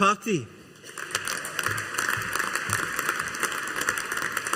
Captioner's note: audience applauding